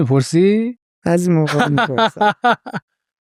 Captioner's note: laughs